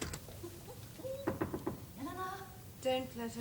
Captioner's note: knock on door